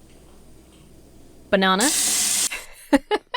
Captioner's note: water running; laughs